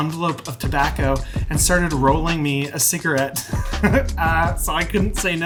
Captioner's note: laughs